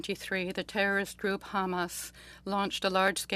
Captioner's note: speaking French